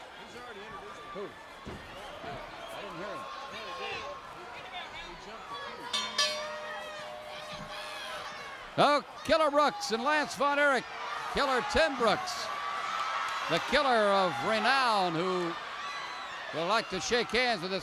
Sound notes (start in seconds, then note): 5.8 bell rings